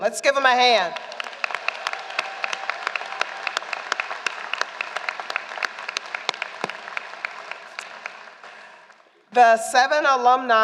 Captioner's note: applause